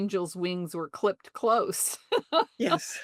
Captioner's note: laughs